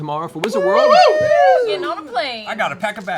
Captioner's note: cheering